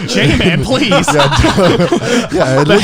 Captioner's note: both chuckling